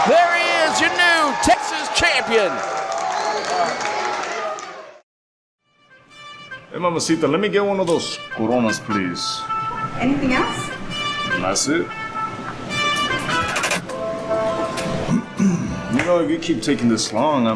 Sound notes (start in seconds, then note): 5.9 funky music plays; 15.0 clears throat